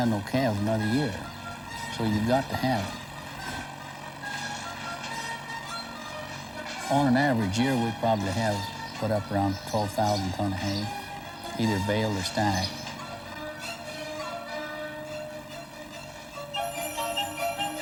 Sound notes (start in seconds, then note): 6.4 baler working